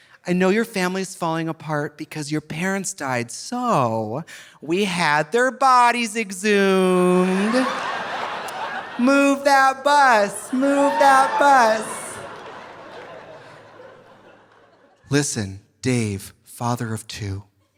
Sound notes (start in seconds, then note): 7.6 audience laughing; 12.0 audience laughing softly